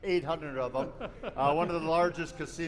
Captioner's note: laughs